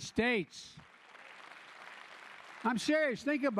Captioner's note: applause